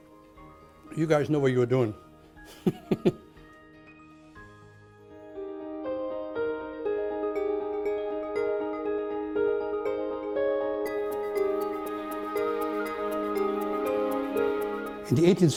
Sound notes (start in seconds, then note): 2.6 laughs